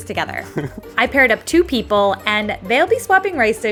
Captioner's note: chuckles